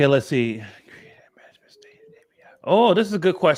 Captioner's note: whispering